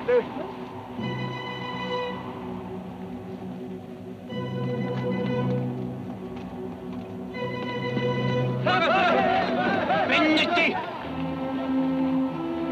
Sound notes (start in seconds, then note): 8.6 Apaches shout; 10.4 Delgadito speaking foreign language; 12.4 tense music